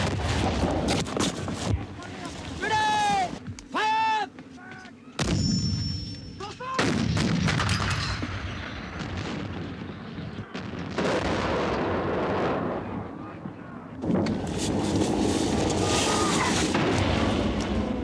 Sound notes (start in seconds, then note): 2.9 cannons booming; 2.9 soldier shouting